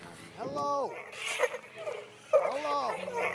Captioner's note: loud snickering